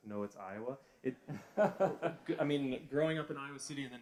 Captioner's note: laughter